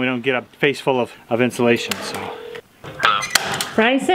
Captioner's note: phone rings